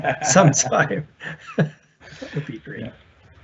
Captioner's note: laughs